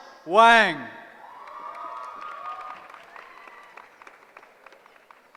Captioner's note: cheering